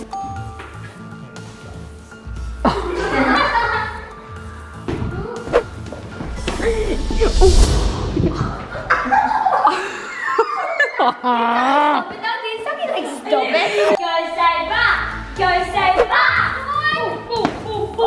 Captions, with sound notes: (Laugher) (Excited noises) Go Sabre, Go Sabre!